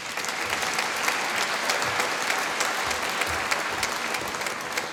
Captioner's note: applause